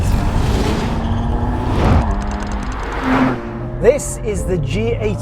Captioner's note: engine growling